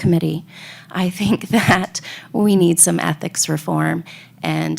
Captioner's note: laughs